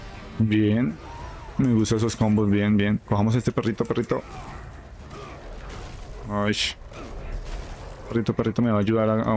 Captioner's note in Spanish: gemido